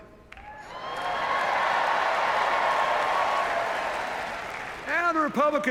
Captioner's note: cheers, applause